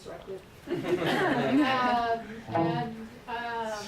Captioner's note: audience laughter